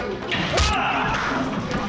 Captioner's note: Jewel screams